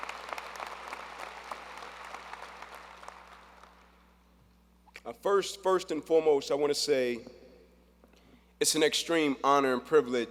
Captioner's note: applause